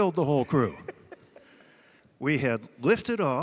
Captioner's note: laughter